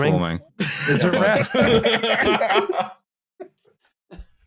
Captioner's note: laughs; laughter